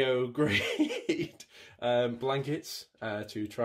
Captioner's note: laughs